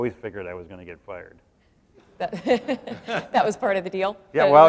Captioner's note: laughs